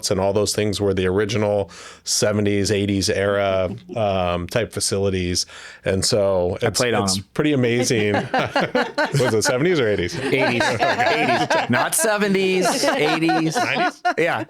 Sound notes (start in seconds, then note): 7.7 laughing